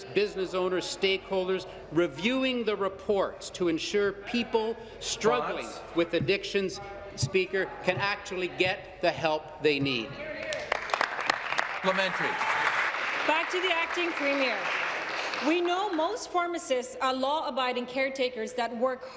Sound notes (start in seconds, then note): 14.3 applause